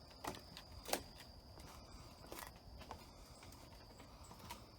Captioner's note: footsteps tapping